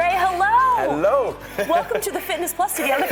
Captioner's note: laughing